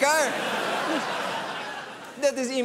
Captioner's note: laughter